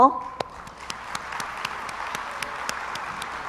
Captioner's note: crowd applauds